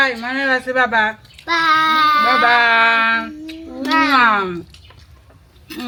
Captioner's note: kisses